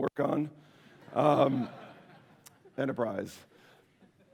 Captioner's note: laughter